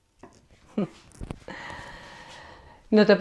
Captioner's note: she laughs